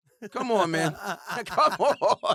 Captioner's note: laughter